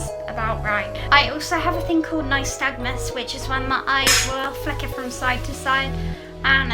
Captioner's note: slap